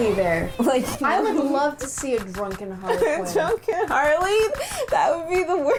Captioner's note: laughing